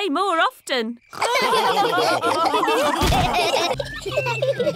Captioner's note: all laughing